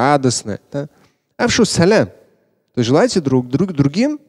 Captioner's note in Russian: Говорит на арабском